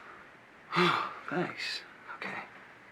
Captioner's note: sighs